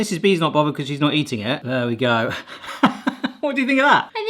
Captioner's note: laughter